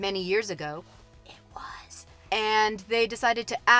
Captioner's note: whispering